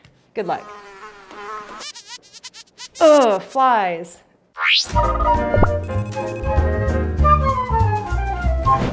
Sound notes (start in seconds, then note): 0.6 fly buzzing